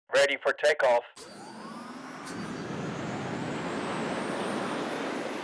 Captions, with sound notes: - [Voiceover] Ready for takeoff. (rocket taking off)